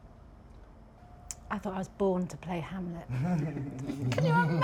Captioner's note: ripple of laughter